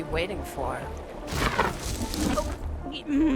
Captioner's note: whooshing